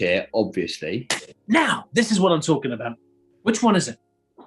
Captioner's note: claps